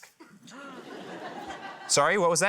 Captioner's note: laughter